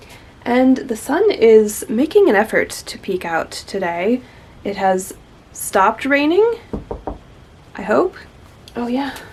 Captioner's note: knocks on wood